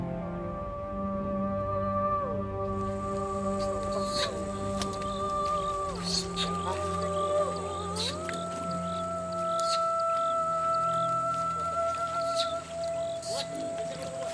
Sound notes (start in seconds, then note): 3.0 orangutan chirping